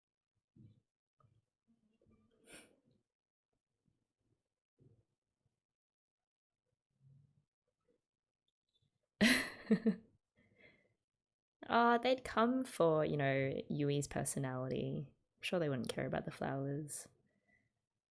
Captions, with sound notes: [laughs] Aw they'd come for you know, Yui's personality. I'm sure they wouldn't care about the flowers.